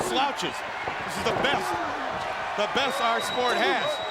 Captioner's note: crowd clamoring